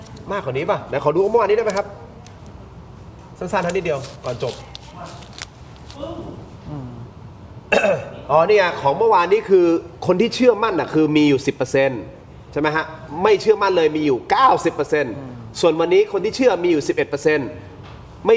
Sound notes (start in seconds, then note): 6.0 bang; 7.7 clears throat